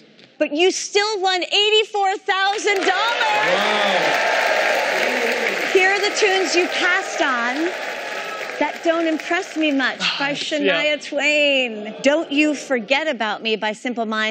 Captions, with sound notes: But you still won $84,000! [cheering] Here are the tunes you passed on. "That Don't Impress Me Much" by Shania Twain. "Don't You Forget About Me" by Simple Minds.